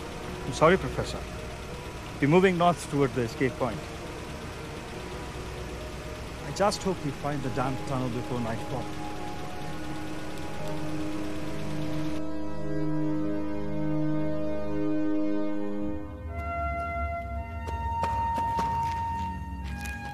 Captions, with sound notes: I'm sorry Professor, we're moving north towards the escape part. I just hope we find the damn tunnel before nightfall. [solemn music] [footsteps]